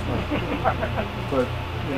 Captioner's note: chuckles